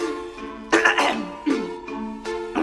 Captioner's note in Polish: chrząkokaszl